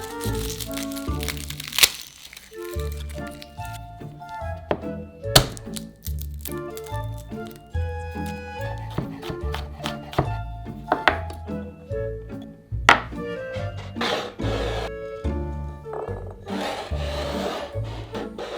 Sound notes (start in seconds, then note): 0.0 garlic paper rustling; 5.3 knife smashing; 9.5 knife cutting; 14.0 bowl sliding